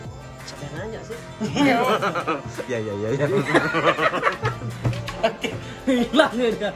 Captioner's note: shocking & laughing